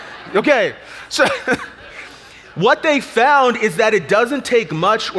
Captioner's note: audience laughs; laughs